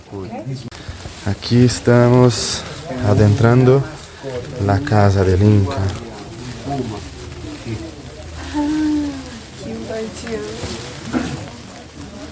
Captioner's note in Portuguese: Som de chuva